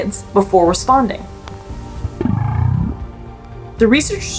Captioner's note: whale vocalizations; background music